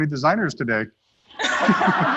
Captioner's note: laughter